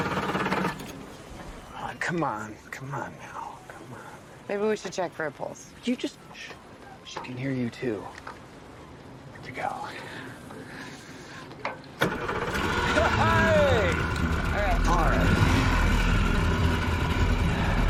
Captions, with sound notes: Aw, come on. Come on, now. Come on. Maybe we should check for a pulse. Would you u just-- She can hear you, too. Here we go. [engine turns over] Ha ha! - All right. - All right.